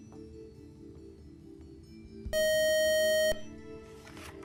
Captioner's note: buzzing